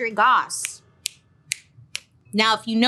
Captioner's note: clicking fingers